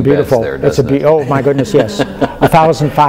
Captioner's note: laughter